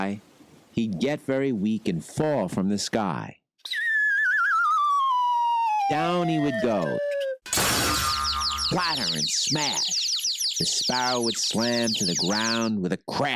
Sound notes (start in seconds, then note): 7.5 sparrow thuds